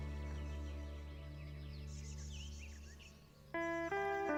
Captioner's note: birds chirping; gentle calming music